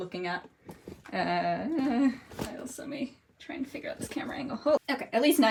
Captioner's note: stressed noises